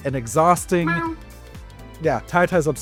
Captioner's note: Ti meows